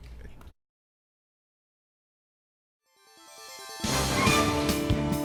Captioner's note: gavel